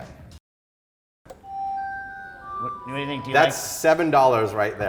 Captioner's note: high electronic hum